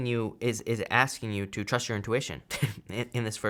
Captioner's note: chuckles